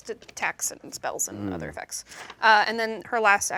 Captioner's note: Ikyulus hums in agreement